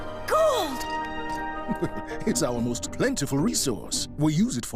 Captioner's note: chuckles